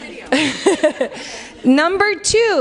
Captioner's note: laughs